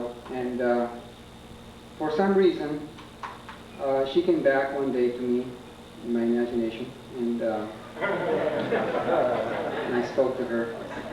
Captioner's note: laughter